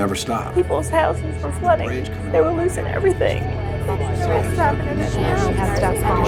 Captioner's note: female Voice Crying